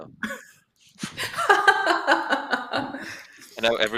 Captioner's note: laughter